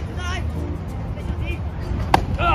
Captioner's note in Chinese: 小朋友場邊音